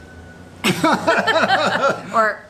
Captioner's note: laughing